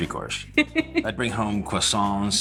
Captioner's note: Tori laughs